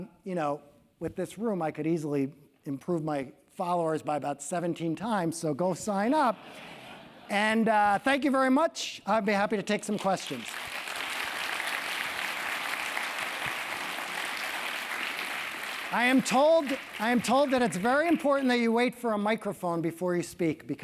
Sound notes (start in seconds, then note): 9.8 applause